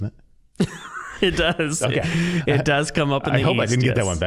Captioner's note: laughing